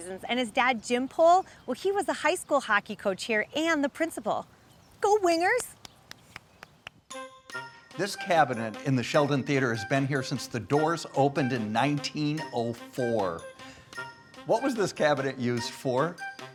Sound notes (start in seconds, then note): 5.8 clapping; 7.3 bright music; 16.3 bright music